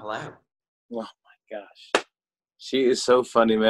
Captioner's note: claps hands